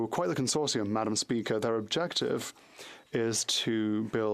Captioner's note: speaking French